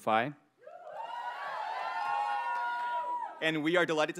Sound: audience cheers

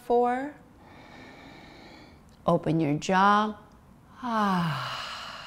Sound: exhales; inhales

